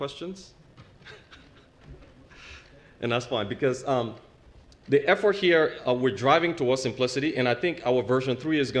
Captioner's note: laugh